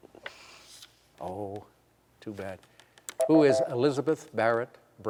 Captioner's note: beep